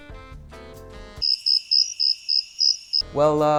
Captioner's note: crickets chirp